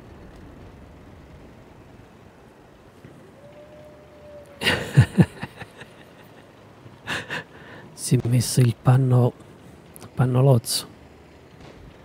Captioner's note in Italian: Risate